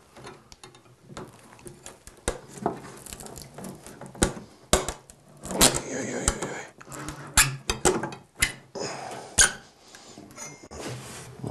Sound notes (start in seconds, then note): 5.4 quietly